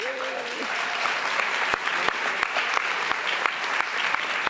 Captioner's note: audience applauds